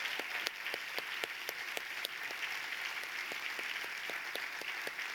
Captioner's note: audience applauding; clapping